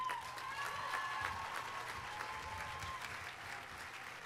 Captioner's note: audience applauding